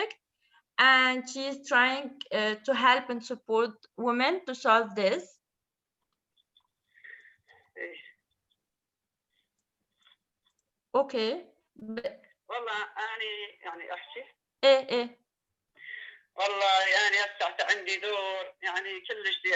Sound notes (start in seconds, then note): 5.5 speaking in another language/ Interpretation